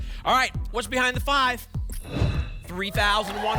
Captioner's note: whoosh